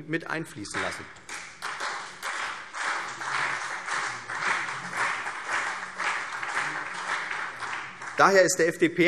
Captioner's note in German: Beifall CDU und BÜNDNIS 90/DIE GRÜNEN